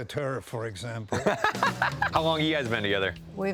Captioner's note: laughs